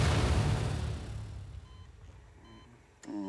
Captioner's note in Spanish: Bip en monitor